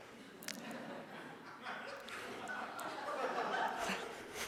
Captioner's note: audience laughs